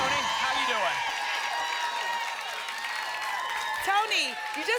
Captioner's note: applause and cheering cont